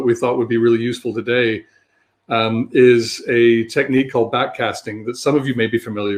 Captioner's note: erm